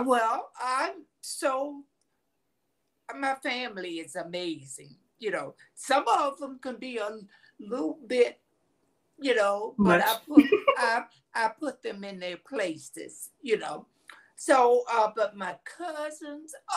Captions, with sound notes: My family is amazing. Some of them can be on little bit, you know, - Much. (chuckles) - But I put them in their places. But my cousins,